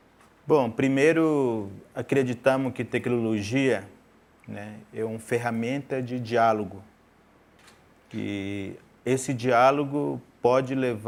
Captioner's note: speaking in portuguese; speaking in portuguese